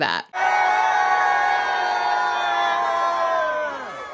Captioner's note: crowd cheering